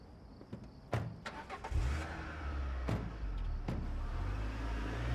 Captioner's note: engine revving